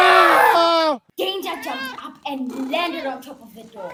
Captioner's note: dogs jump and react loudly